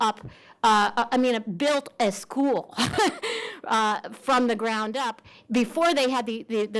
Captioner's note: laughs